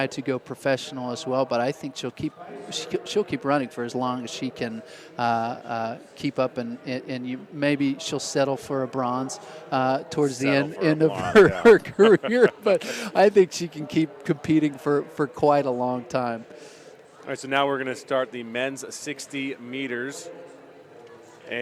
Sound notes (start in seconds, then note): 11.0 laughter